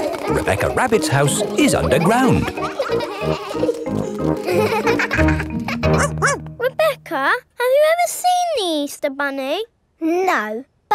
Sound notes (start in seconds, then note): 6.2 barks